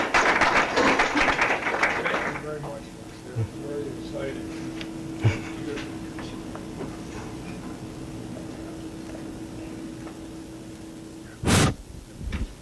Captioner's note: applause